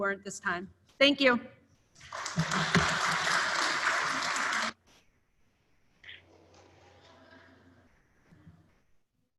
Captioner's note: applause